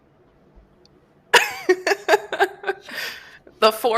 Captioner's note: laughter